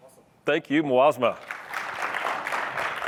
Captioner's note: applause